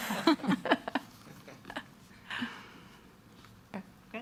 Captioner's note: people laughing